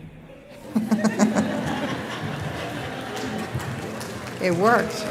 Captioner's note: laughing